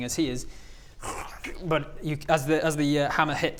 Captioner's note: krrshkch